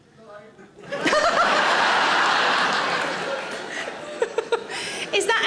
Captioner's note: audience laughs; Sarah laughs